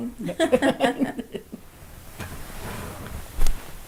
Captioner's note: laughing